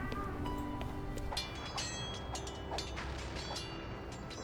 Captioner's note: swords Clanging